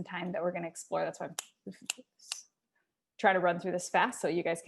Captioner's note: snaps fingers